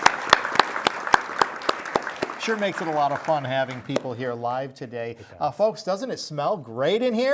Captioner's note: audience applauding